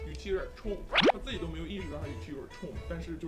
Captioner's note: mouth continues to be busy